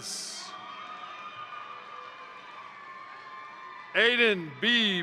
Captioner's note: crowd cheering; crowd applauding